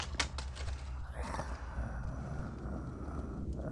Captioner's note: wolf grumbling; eerie music